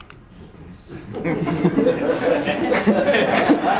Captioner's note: laughter